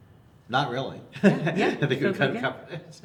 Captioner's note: laughs